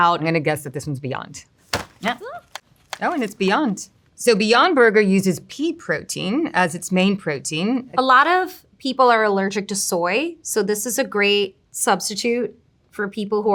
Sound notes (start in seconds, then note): 1.6 packaging thudding